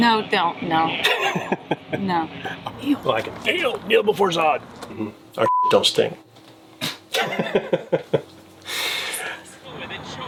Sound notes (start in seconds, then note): 1.0 laughs; 5.4 beep